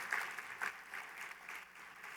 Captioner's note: applause